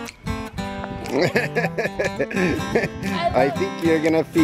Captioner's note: laughs